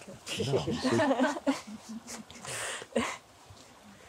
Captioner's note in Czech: smích